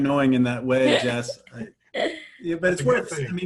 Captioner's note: laughs